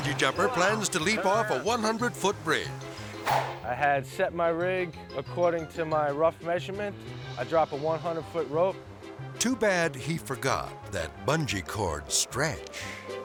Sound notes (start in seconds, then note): 3.4 air swoosh